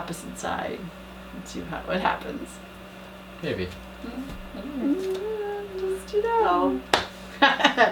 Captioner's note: laugh